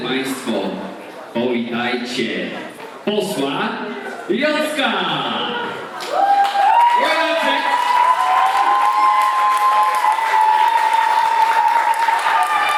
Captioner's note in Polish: Aplauz